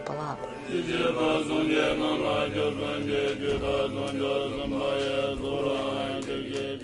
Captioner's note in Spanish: recitado